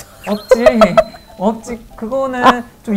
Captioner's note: burst out laughing